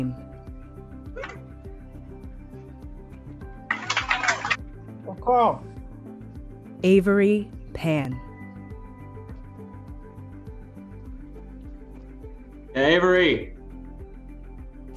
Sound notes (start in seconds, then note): 3.8 applause